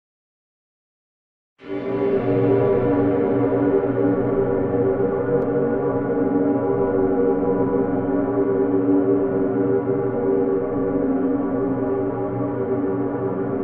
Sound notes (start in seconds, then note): 0.0 sound of dark dimension